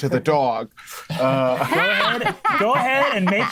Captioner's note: group laughing